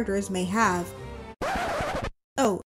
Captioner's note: record scratch